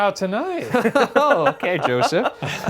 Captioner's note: all laughing